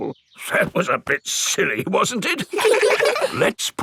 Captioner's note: in teddy's voice; in normal voice; kids laugh